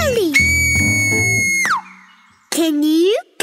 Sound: whistles loudly

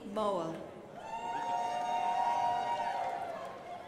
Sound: crowd applauding

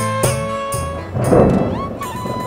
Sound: clouds rumbling

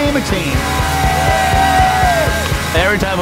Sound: cheering

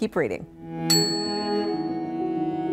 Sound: bell dings; gentle music

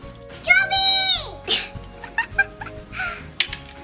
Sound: giggles

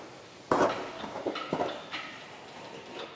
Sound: quiet rattling in the background

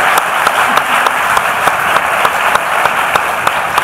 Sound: applause

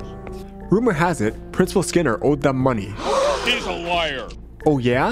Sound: gasps

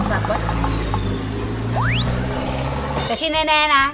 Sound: car noise

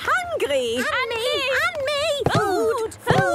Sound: calling out in turn

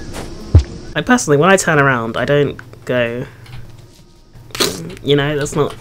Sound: makes squish sound

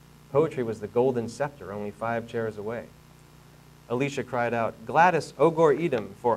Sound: none

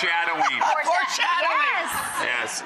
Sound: laughing

